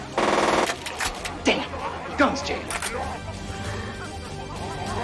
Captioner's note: gun cocks